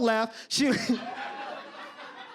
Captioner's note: audience laughter